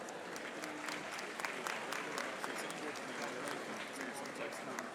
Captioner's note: audience applauding